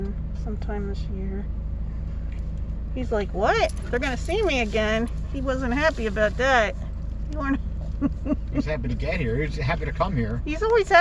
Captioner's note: laughing